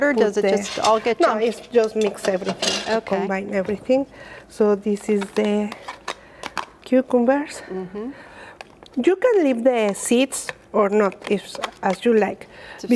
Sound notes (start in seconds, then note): 9.6 plastic spoon taps